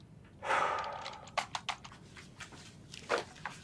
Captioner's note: sighs